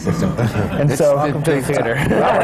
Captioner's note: laughter